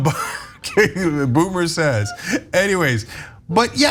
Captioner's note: laugh